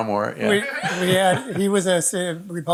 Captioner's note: audience laughing